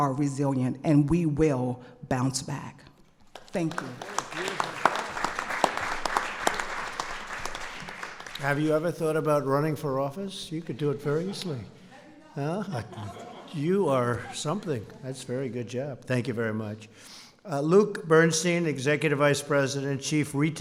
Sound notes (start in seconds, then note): 3.2 applause; 12.6 off-mic